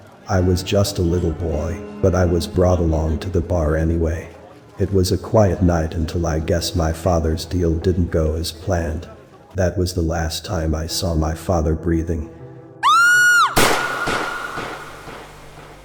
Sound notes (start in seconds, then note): 12.8 scream; 13.5 gunshot